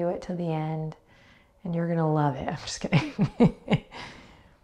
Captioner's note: chuckles